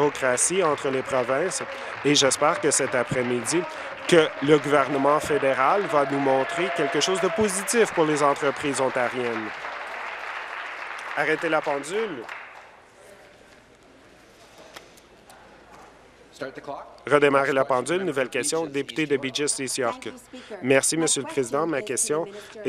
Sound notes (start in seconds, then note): 1.2 applause; 9.9 applause